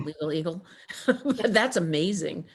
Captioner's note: chuckles